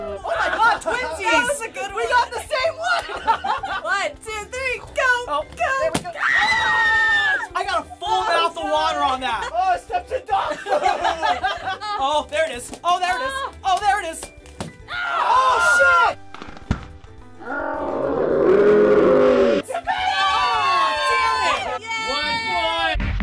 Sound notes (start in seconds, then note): 5.9 balloon popping; 6.2 shrieking; 10.4 laughter; 14.5 balloon popping; 16.3 balloon popping in slow-mo; 17.4 screaming in slow-mo; 19.8 cheering; 22.9 techno music